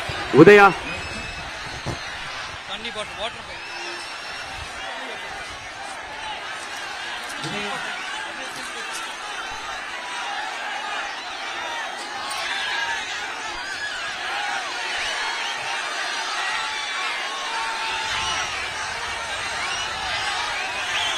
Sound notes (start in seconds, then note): 3.7 applause